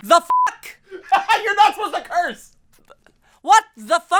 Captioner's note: laughs